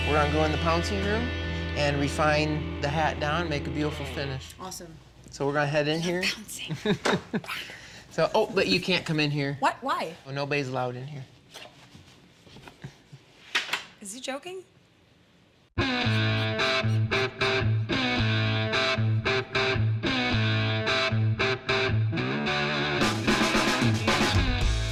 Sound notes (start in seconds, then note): 11.6 door closes